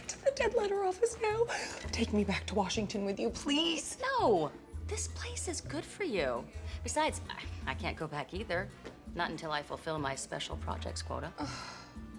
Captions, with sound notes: TAKE ME BACK TO WASHINGTON WITH YOU, PLEASE? NO! THIS PLACE IS GOOD FOR YOU. BESIDES, I CAN'T GO BACK EITHER. NOT UNTIL I FULFILL MY SPECIAL PROJECTS QUOTA. [MORTIFIED SIGH] OH.